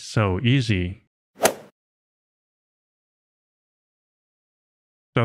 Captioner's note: golf ball hit sound